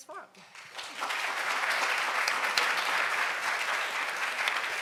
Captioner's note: audience applauds